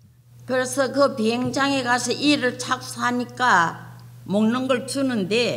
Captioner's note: speaking foreign language